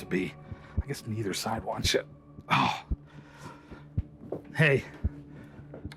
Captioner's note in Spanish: gemidos